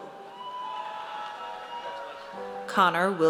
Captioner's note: audience cheers